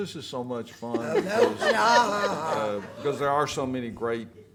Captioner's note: everyone laughs